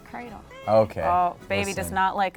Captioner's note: baby crying